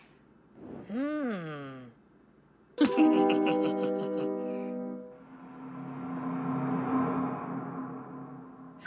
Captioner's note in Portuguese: risadas